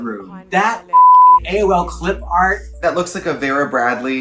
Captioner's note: beep